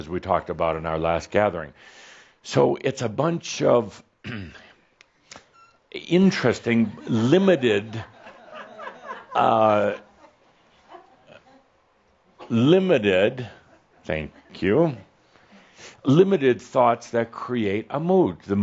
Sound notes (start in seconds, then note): 7.6 a few chuckles